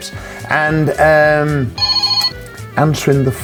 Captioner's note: phone ringing